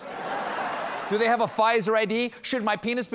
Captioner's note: laughter